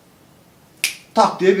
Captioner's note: click